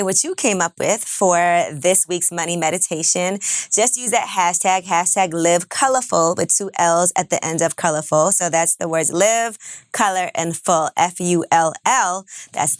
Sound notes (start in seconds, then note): none